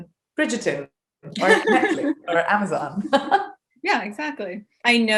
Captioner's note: laughing